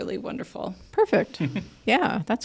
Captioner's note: chuckles